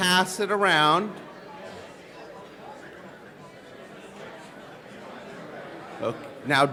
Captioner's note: collective chattering